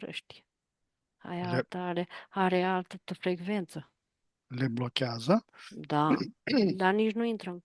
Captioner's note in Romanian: voce dreasă